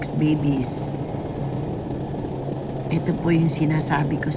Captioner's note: helicopter whirl